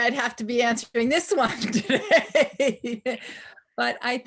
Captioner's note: laughs